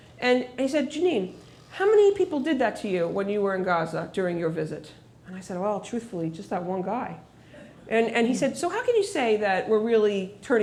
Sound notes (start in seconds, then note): none